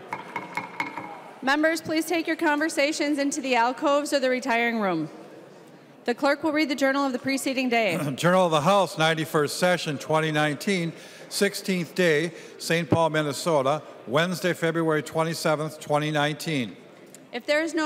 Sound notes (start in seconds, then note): 4.2 gavel